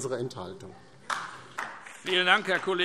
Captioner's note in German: Beifall DIE LINKE